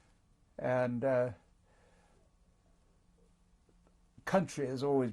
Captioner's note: pauses for 3 seconds